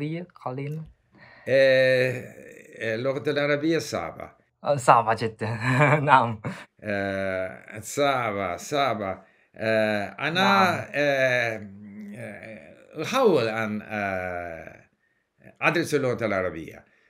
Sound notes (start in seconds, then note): 0.0 Arabic